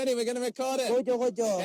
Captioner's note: foreign language